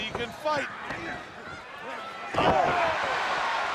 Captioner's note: crowd cheering